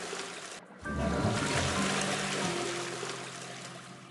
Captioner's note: flushes Toilet